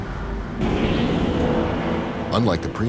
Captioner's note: dark, foreboding music; machinery whirs